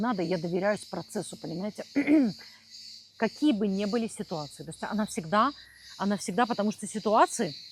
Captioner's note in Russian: откашливается